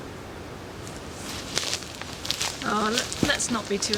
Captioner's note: shuffling